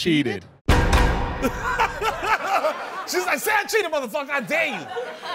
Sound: laughs

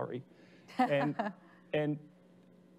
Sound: laughing

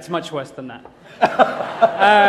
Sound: laughter

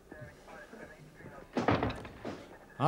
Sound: door closes

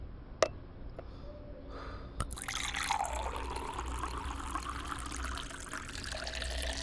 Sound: water filling

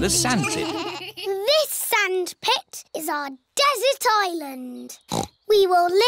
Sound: snorts

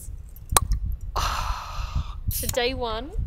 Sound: cap pops; groans

